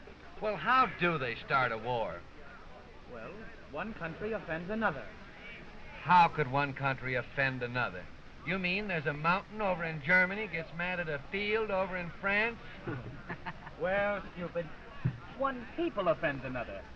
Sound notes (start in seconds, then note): 12.7 all chuckle